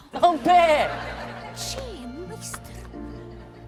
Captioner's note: mrs. reynolds, under breath; uplifting piano and strings